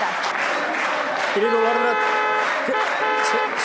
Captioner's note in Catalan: clàxon